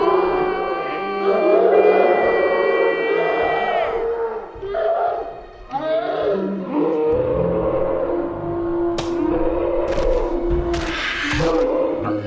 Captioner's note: screams, crying